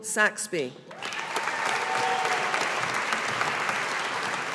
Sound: audience applauding

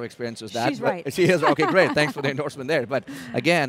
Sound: laughs

